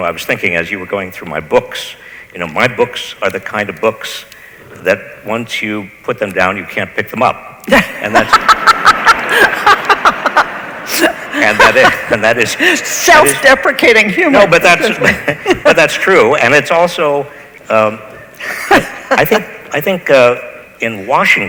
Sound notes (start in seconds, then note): 7.7 laughs; 7.7 audience laughs